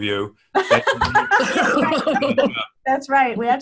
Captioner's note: everyone laughing